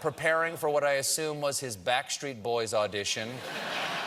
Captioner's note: laughter